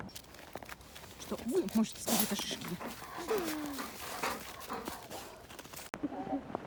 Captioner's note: the dog is puffing